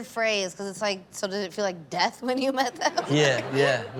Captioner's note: audience laughs; laughs